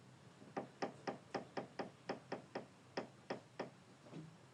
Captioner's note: door creaking